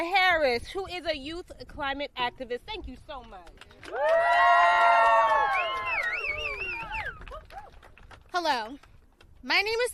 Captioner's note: applause